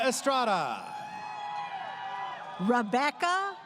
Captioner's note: crowd cheering